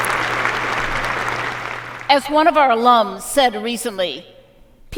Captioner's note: applause